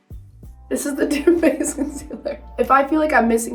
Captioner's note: laughs